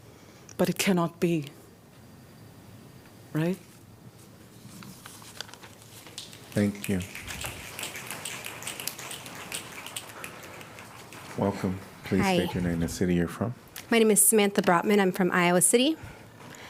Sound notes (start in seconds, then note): 9.0 applause